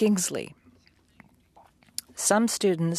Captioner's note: speaking French